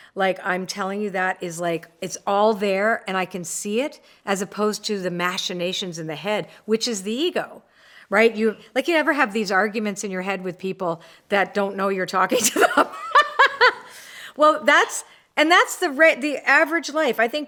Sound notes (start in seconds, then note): 12.5 laughs